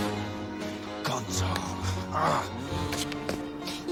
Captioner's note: growls